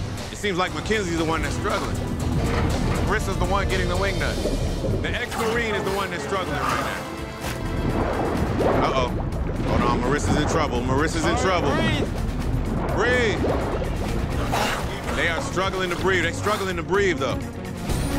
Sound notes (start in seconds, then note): 6.9 dramatic music; 6.9 gasping; 14.3 gasping